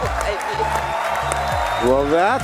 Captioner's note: applause